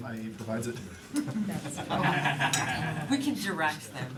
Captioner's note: laughter